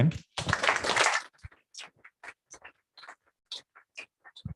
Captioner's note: applause